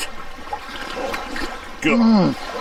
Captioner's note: slurping